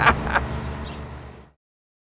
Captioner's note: laughing